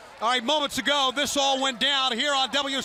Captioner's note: crowd chatter